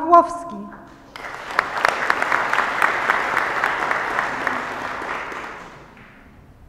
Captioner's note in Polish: oklaski